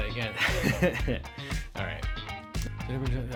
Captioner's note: laughs